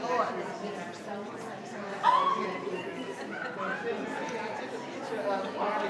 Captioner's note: people chattering